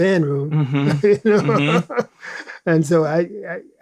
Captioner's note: laughs